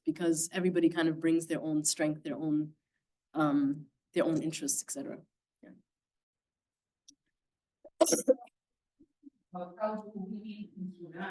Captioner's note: coughing